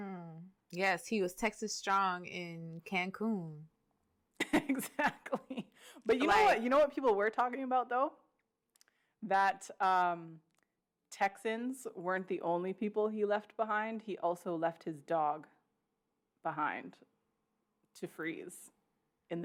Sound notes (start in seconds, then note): 5.5 laughs